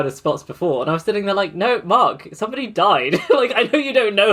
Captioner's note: laughs